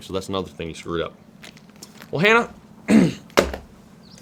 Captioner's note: clears throat